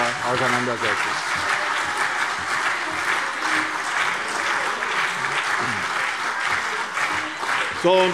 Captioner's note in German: Beifall CDU und BÜNDNIS 90/DIE GRÜNEN – Lachen und Zurufe SPD